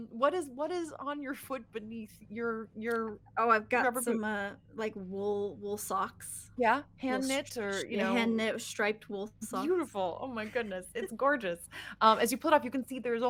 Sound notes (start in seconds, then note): none